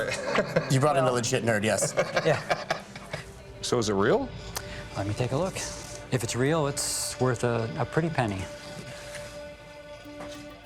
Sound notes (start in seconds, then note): 1.5 laughs; 7.9 suspense music